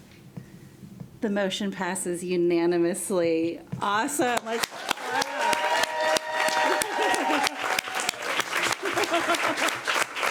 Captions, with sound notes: The motion passes unanimously. Awesome. (room cheering)